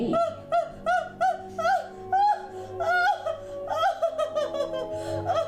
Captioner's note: puppet screaming and crying